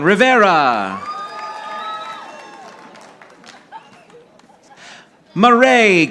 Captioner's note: audience applauding